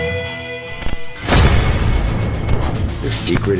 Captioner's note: static hissing